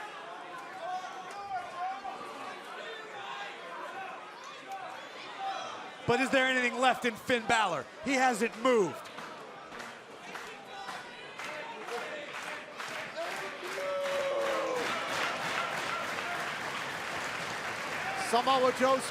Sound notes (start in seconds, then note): 0.2 crowd chatter; 15.2 crowd cheering; 17.7 crowd chatter